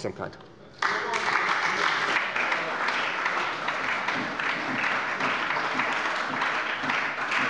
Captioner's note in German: Beifall bei der SPD